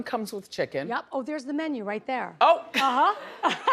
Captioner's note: laughs